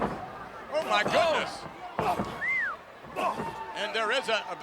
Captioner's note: whistles